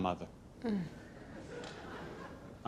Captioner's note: audience laughs